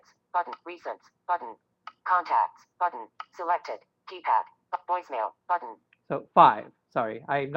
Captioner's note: Siri talking